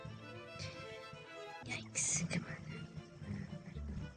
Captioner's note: whispers